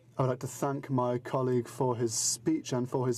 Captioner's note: speaking in french